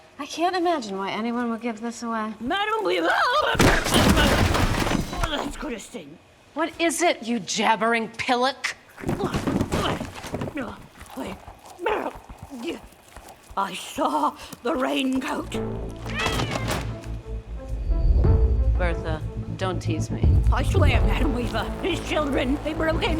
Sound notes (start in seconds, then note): 3.6 clattering; 8.9 boxes clattering; 9.0 Bertha grunting; 11.3 whimpering; 16.0 cat meows; 17.2 suspenseful music